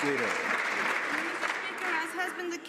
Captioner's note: some Applause